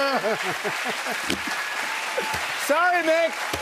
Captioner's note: cheers and applause